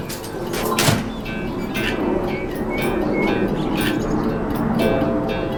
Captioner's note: aircraft flying overhead